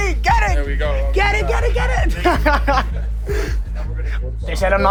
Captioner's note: laughing